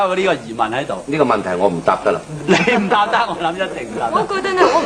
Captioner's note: chuckling